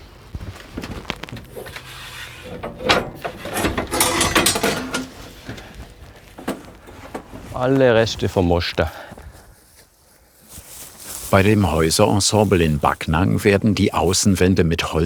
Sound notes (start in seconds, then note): 3.7 clattering